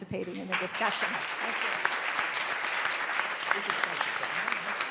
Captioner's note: everybody applauds